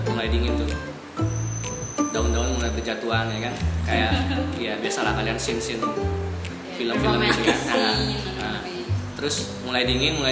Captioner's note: laugh